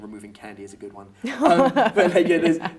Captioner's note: woman laughs